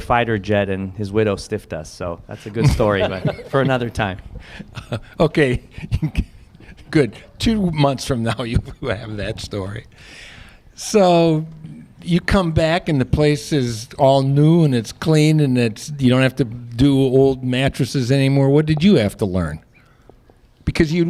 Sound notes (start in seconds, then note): 5.4 laughter